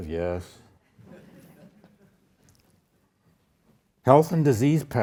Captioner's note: audience laughs